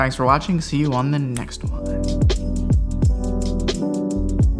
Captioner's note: snaps fingers; mellow music